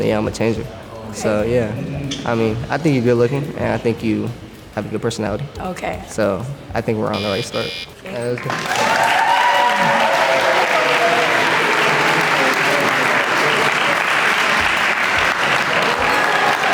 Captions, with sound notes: yeah, I'm gonna change her. So yeah. I mean I think you're good looking and I think you have a good personality. So I think we're on the right start. (group applauds) (group cheers)